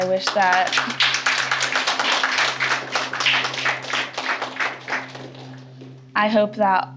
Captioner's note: applause